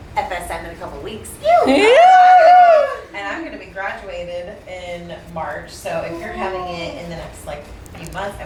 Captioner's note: cheers